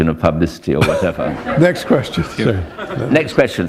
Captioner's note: laughter